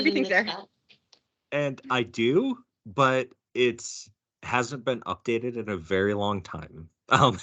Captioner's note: laughing